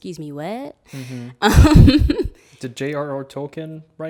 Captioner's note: laughing